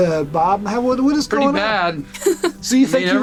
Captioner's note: laughs